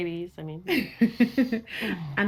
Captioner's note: laughs